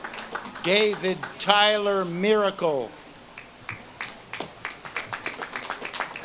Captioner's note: audience claps and cheers